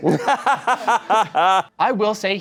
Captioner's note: laughs